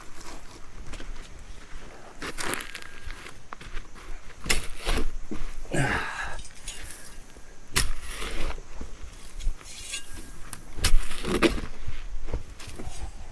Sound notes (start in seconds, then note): 1.9 footsteps crunching; 4.1 shovel swooshing; 5.6 Pete grunting; 7.3 shovel swooshing